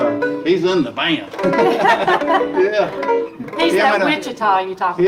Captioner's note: guitar tune; laughing